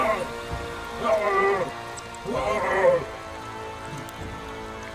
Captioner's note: leprechaun groaning; sinister music; liquid sizzling